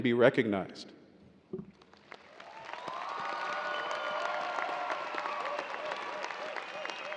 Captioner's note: audience cheering and applauding